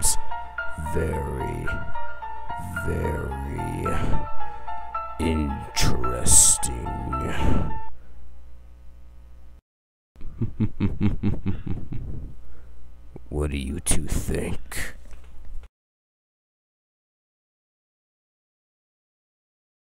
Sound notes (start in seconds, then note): 10.2 quiet laughter